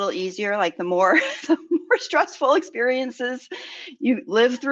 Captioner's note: laughs